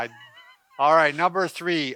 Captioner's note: chuckling